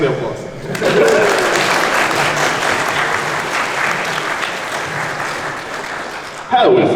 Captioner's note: applause